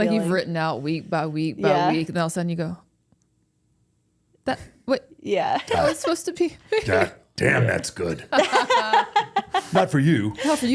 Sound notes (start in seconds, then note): 8.3 laughing; 8.4 Bayley laughing